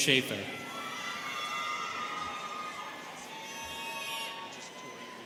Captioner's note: students cheering